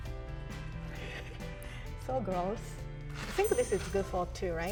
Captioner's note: laughs